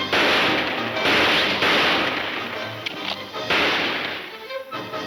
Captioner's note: gunshots banging